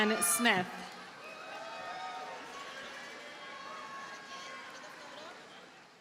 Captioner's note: audience cheers and applauds